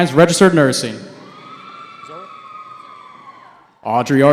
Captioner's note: cheering